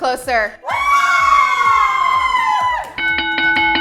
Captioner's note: cheering; bell rings